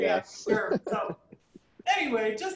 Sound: chuckling

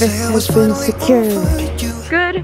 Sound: speaks Korean

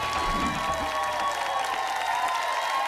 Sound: applause and cheering

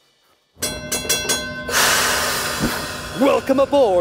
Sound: train bell rings

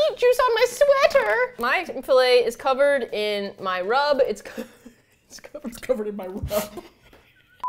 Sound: laughs; laughing

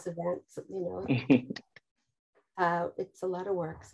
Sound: chuckles

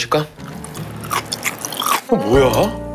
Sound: crunch crunch

